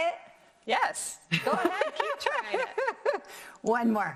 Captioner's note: laughs